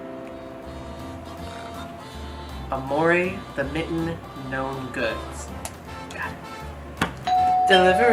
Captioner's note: doorbell rings